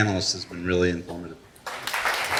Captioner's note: applause